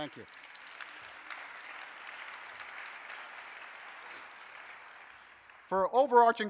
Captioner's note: audience applauses